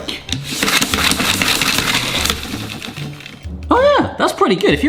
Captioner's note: Spina whooshing